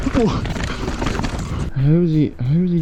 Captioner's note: wincing